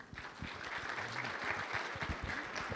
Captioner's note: applause